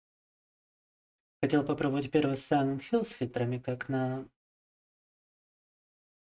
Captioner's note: speaking in foreign language